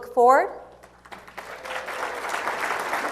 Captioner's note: applause